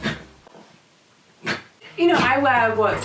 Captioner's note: dog sneezing